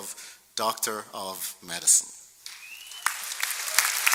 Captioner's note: applause